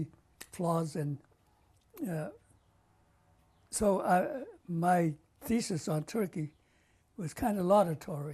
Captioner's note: pauses for 3 seconds